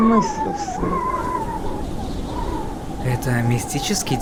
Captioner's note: wind howling